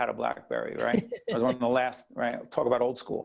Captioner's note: Gary laughing